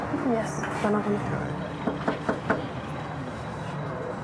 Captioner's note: knocking